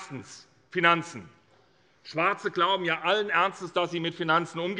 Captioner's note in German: none